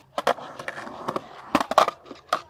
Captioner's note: skateboarding sounds and Music